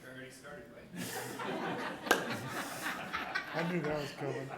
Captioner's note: all laughing